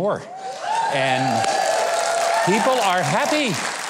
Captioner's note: audience cheers